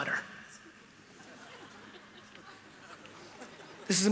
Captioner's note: laughter